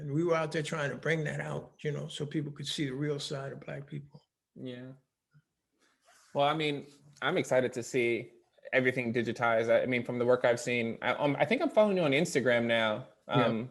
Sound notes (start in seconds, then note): none